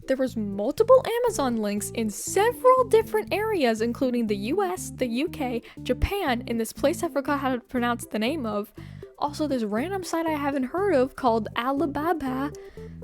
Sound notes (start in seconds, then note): none